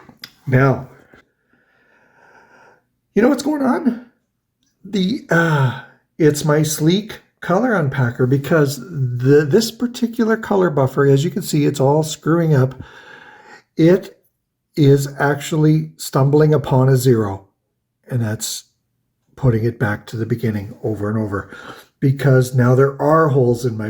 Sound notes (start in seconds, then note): 5.6 exhales